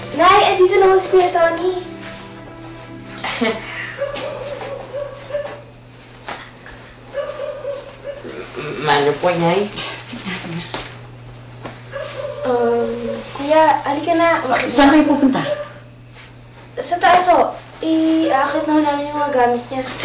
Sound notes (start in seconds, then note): 3.2 Toni chuckles